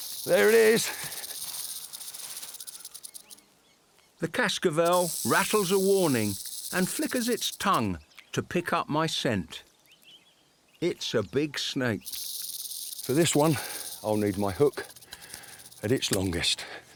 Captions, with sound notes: There it is. (snake rattles) The Cascavel rattles a warning and flickers its tongue to pick up my scent. It's a big snake. For this one, I'll need my hook at its longest.